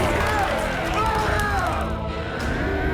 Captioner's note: yelling and Cheering